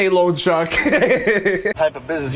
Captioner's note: laughs